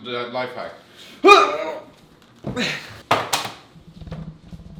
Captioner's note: grunts; phone hits floor